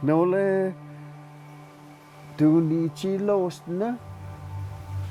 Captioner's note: man speaking in foreign language